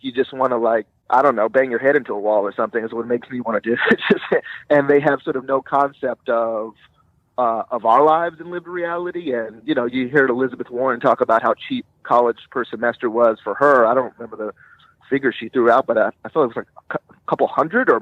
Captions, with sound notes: you just wanna, I don't know, bang your head into a wall, or something, is what it makes me wanna do, (laughing) and they have no concept of our lives and lived reality, and you hear Elizabeth Warren talk about how cheap college per semester was for her, I don't remember the figure she threw out, but I feel like it was couple hundred,